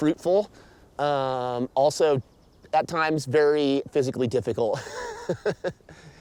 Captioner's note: laughing